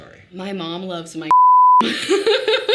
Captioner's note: beep; Sadie laughing